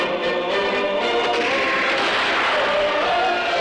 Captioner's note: gunshots